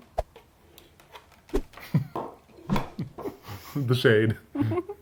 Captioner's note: laughs